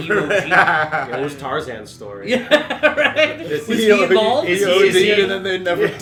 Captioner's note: laughter